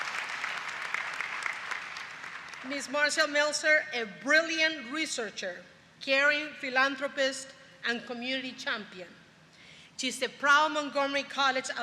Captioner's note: applause